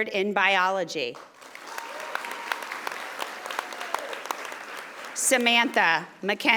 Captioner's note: audience applauding